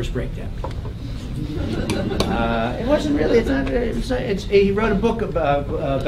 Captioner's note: laugh